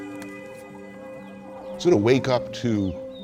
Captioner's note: horns blaring